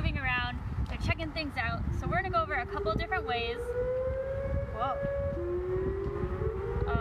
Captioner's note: sirens sound in background